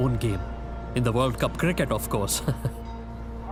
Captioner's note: chuckles